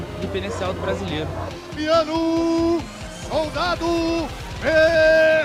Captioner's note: announcer speaking Portuguese